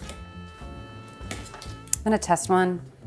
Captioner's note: pot thuds